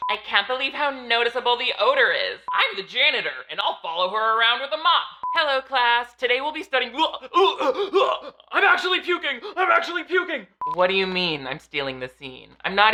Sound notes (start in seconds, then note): 6.9 gagging